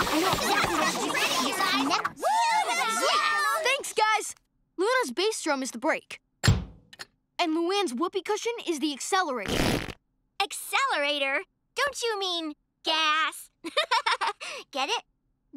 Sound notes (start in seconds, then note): 0.0 indistinct chatter; 9.4 imitated flatulence; 13.6 giggles